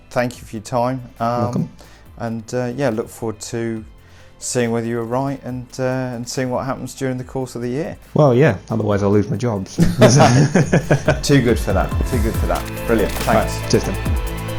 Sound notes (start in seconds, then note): 9.8 laughing; 14.3 upbeat music